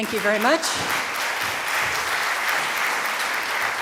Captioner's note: applause from the audience